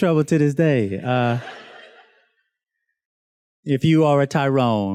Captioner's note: students laughs